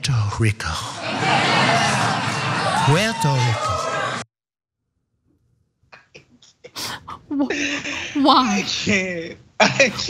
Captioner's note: laugh